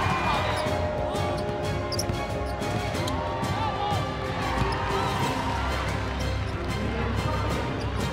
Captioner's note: crowd cheering